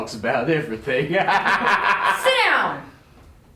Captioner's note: laughter